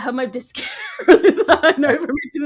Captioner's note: laughs